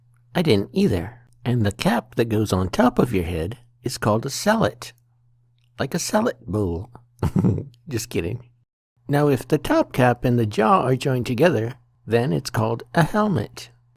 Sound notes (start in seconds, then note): 7.2 laughing